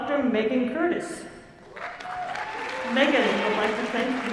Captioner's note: applause